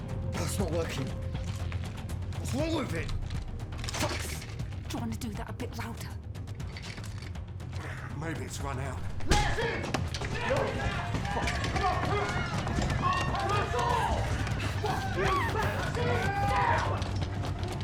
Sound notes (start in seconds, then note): 10.3 mob shouting; 11.8 mob screaming and baying